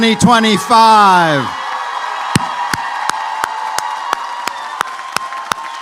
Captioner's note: applause